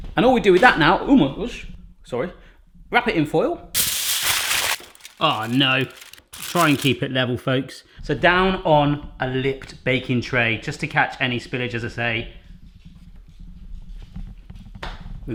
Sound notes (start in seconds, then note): 3.7 metallic crunching